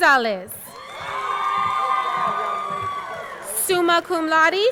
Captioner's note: audience cheering; audience clapping